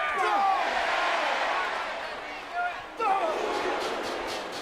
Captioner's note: audience shouting